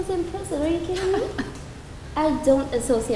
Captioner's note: laughs